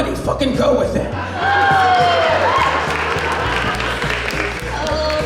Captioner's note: audience Applause